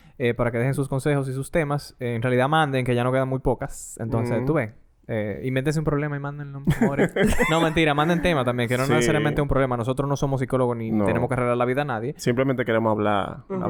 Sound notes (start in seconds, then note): 6.7 laughs